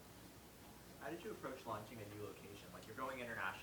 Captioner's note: voiceover